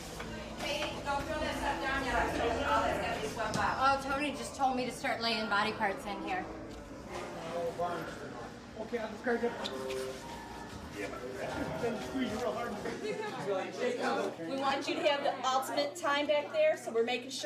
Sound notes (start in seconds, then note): 7.3 chattering